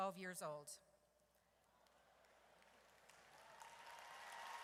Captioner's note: audience cheers